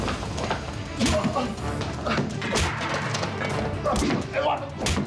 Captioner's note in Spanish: puñetazos